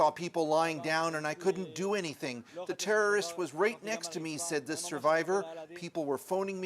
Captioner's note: speaking alternate language